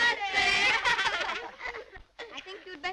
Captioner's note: laughter